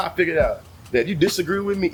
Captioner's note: birds Chirping